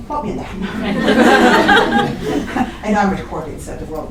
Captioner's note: laughter